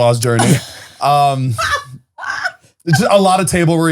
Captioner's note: laughing